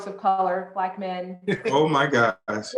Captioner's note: chuckles